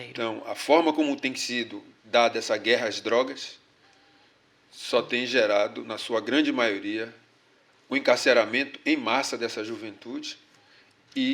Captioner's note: speaking portuguese